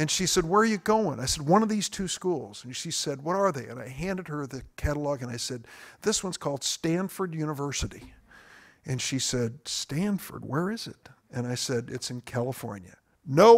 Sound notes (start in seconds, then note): none